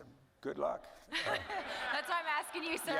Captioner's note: audience laughing